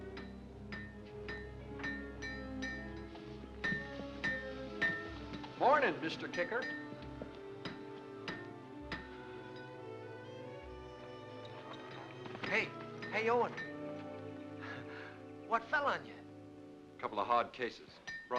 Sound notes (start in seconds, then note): 0.0 ominous music; 0.2 metal clanking sound; 0.2 ominous music; 7.6 ominous music; 8.2 metal clanking sound; 9.5 ominous music